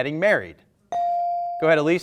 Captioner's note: buzzer dings